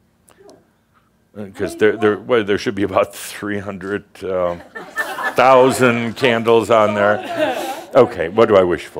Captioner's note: more chuckles